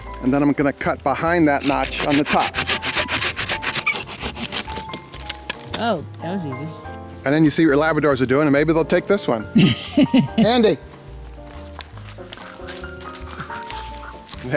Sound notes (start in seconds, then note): 3.4 pruner scraping; 9.5 camera operator laughs; 11.9 cheerful music